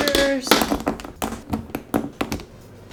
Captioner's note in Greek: Τα είδη τέχνης κάνουν κρότο